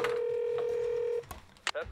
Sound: phone dialing

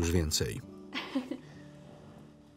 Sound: laughs

